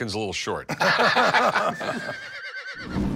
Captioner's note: laughter